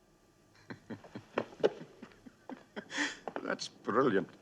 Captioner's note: General Gogol chuckling